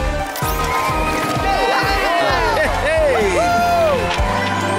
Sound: cheering

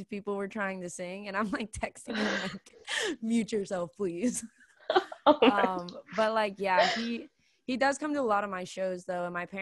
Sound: laughing

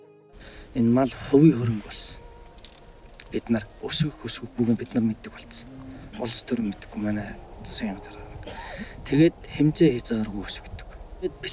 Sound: in Mongolian

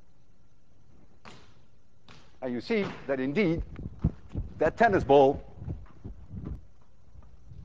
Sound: balls bounce

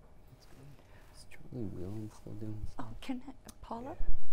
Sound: mumbling

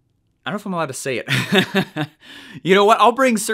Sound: laughing

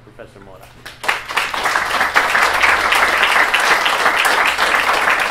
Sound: applause

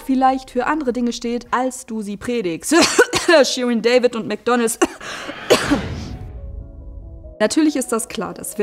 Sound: cough

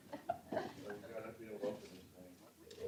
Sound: laughter

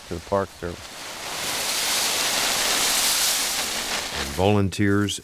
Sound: leaves rustling

